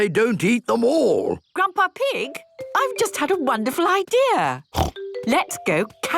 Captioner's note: snort